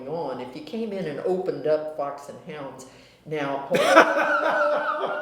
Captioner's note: laughter